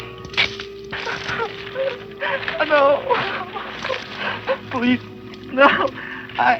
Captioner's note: crying